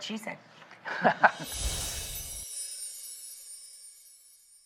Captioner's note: chimes